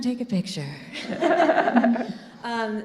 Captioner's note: all laughing